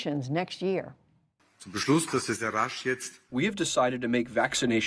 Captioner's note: through translator